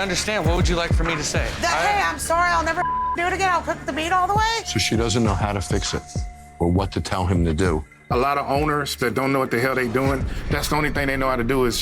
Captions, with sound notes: - I understand. What would you like for me to say? - Hey, I'm sorry, I'll never do (beep) do it again. I'll cook the meat all the way. - So she doesn't know how to fix it or what to tell him to do. - A lot of owners that don't know what the hell they doing, that's the only thing they know how to do